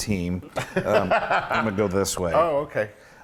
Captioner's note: laugh